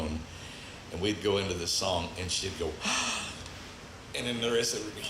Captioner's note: gasps